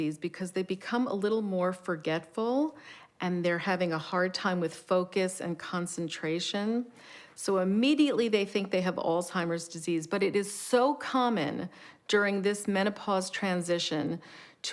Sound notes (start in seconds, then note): none